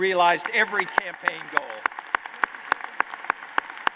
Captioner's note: applause